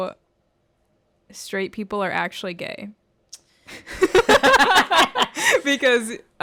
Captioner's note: laughter